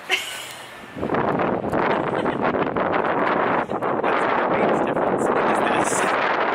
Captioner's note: LOUD WIND NOISES, unable to hear talking